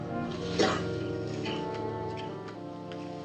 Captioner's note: len coughing